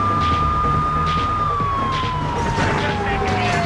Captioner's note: tires screeching; car engine roaring